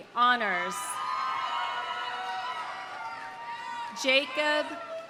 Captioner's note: audience cheering; audience applauding